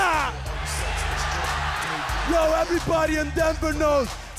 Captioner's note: crowd cheering